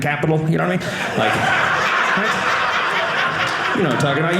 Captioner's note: audience laughing